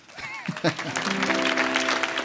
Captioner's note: audience applauds; laughs; grateful acoustic guitar music